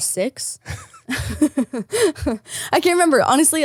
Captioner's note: both laughing